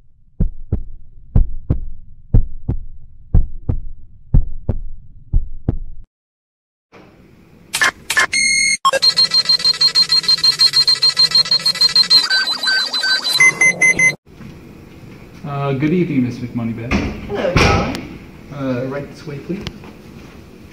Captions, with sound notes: [Heartbeat Sound] [Scanning and Beeping Sound] Good evening Miss McMoneybags. Hello darling. Right this way please.